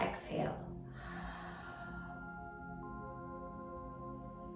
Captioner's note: exhaling deeply